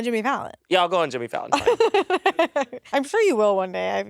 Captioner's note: laughing